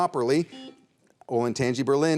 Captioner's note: buzzer beeps